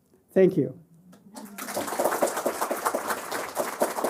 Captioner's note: applause